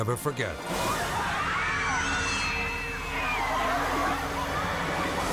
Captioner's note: bystanders screaming